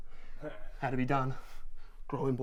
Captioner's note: Dana chuckles